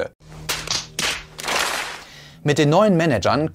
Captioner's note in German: Schlaggeräusche